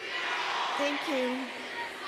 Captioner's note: chanting